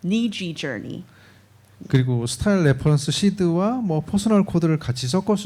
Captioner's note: speaking korean